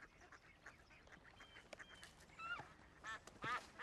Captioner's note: geese honking